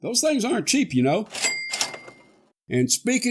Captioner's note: cha-ching!